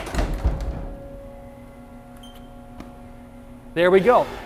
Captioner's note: door closing